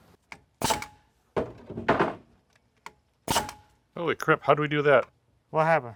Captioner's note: nail gun shooting